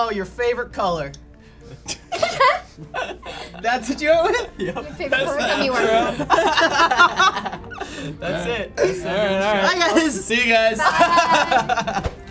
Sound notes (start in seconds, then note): 2.5 laughs; 4.4 chuckles